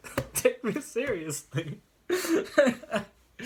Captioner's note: laughs